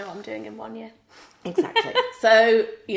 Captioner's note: laughs